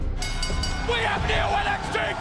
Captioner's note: bell ringing